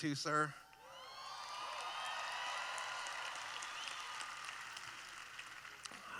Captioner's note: cheering